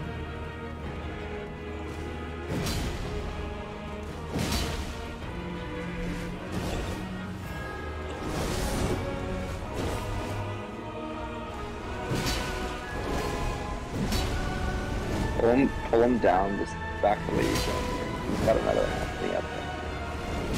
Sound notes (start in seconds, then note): 2.8 sword clanging